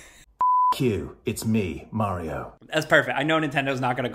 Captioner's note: beep